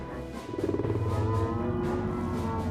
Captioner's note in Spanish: gruñidos